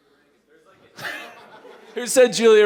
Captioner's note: laughter